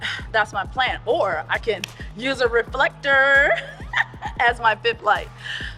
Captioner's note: laughs